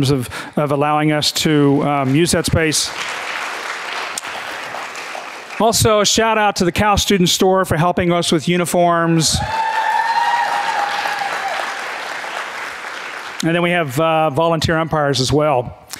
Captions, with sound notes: of allowing us to use that space. (audience clapping) Also, a shout out to the Cal student store for helping us with uniforms. (audience cheering and clapping) And then we have volunteer umpires as well.